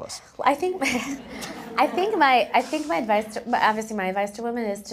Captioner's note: laugh